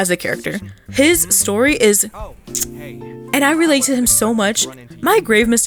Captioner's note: mwah